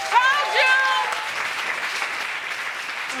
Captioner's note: crowd applauds